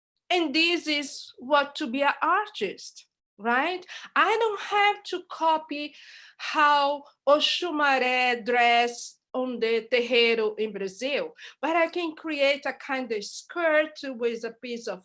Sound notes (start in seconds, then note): 6.6 non-english speech